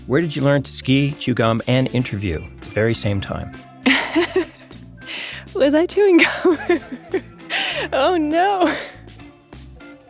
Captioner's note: laughs